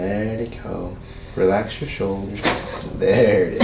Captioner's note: cracking noise